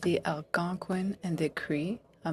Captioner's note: speaking French